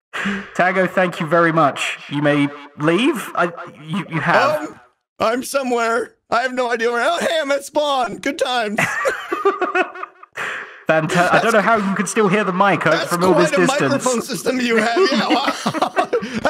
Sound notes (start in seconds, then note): 8.6 laughs